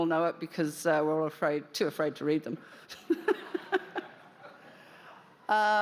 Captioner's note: laughter